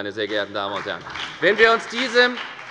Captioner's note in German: Beifall bei der FDP